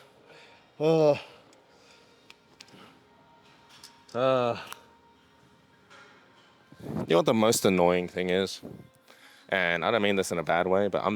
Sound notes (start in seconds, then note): 0.8 sighs